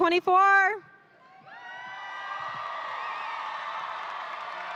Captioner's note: audience cheering